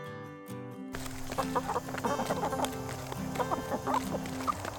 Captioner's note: slow guitar music; chicken clucking